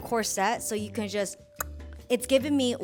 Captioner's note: clicks tongue